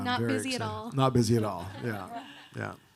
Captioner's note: audience laughing